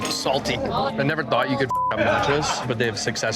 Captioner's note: beep